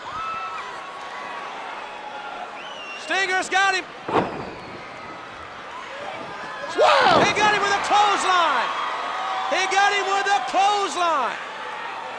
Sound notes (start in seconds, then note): 0.1 crowd cheering; 4.3 Black Scorpion thudding on ring